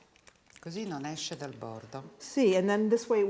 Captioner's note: speaking Italian